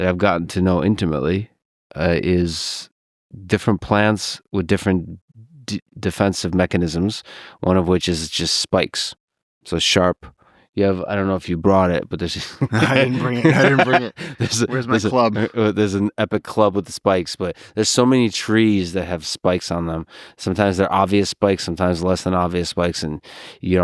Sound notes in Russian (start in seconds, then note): 12.4 Лекс смеётся